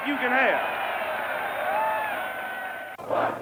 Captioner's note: cheering